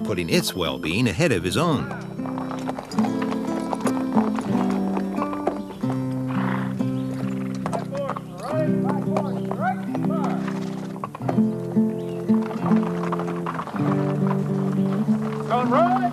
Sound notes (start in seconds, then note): 3.6 gentle instrumental music; 8.5 soft chattering; 12.7 gentle instrumental music